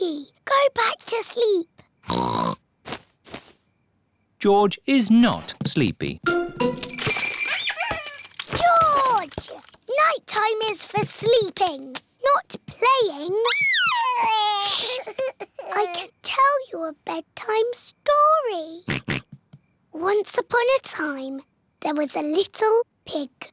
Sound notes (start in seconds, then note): 2.0 oinks; 6.3 bells ring and toys squeak; 13.5 cries; 18.9 oinks